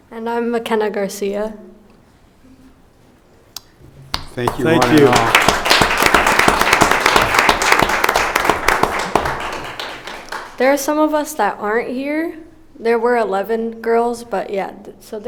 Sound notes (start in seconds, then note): 7.3 applauding